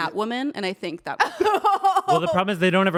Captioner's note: laughs